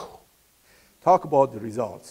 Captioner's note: clearing throat